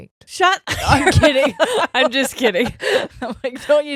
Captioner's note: laughs